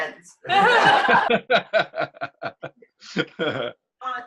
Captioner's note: laughter